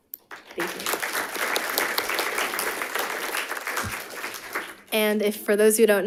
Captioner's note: audience applauding